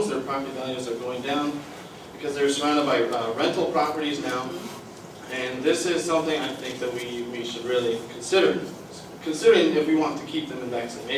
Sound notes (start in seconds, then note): none